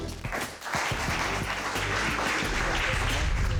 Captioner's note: audience claps